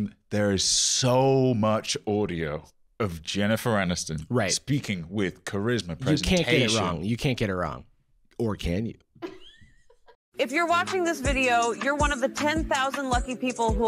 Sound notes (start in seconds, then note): 9.2 laughing